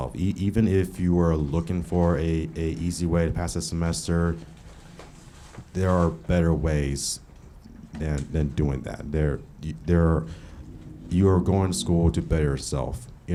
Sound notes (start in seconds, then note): none